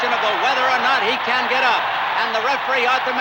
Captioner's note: crowd cheering continues